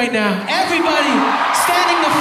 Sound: audience applauding

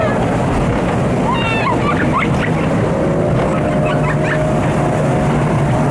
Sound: laughing

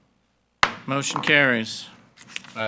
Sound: gavel bangs

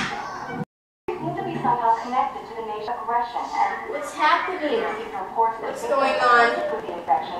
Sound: television news reporter speaking

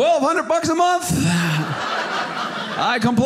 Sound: audience laughing

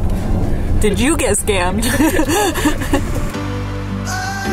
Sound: laughs

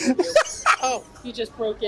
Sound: laughs

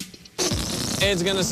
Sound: farting noise

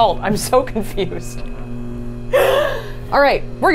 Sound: laughs

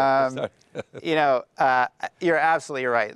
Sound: laughs

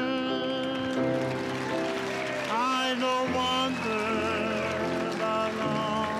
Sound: audience cheering and applauding

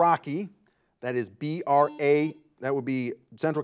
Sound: buzzer buzzes

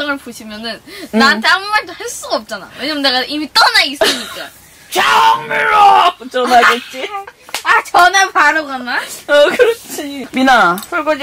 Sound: laughing

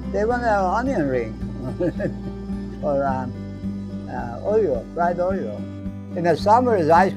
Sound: laughs

